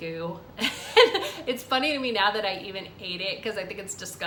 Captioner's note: laughs